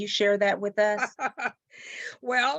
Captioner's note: chuckling